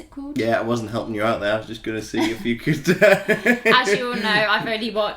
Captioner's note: laughs